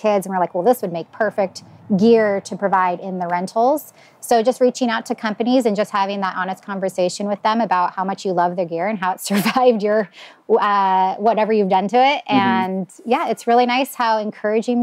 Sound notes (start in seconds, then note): 9.9 laughs